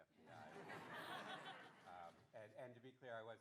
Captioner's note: audience laughing